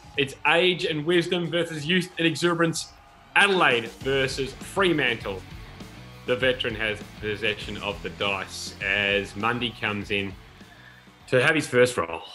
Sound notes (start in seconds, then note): 6.3 speaking quietly